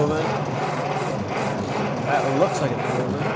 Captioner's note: engine rumbles